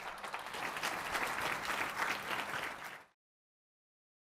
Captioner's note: applause